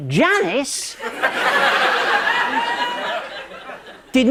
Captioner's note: laughter